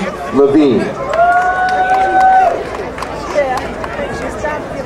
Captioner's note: crowd cheering